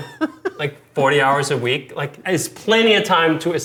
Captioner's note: laughing